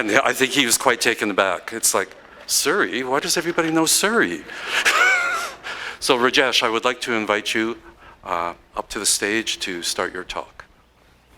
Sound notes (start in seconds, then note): 4.6 laughter